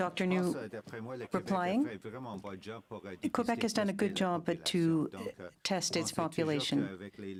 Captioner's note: speaking French